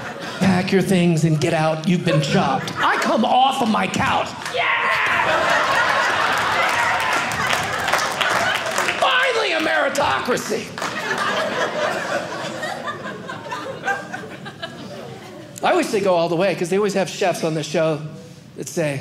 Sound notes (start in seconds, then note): 4.4 audience applauding; 10.2 audience laughing